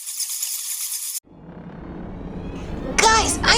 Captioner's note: wings fluttering